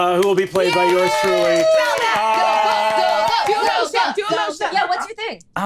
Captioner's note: cheering